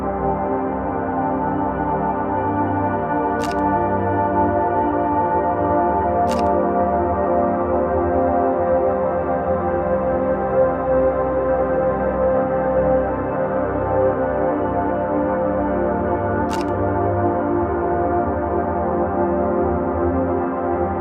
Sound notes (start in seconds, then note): 3.3 camera shutter clicks; 4.3 soulful music continues; 6.2 camera shutter clicks; 7.2 soulful music continues; 16.4 camera shutter clicks; 17.4 soulful music continues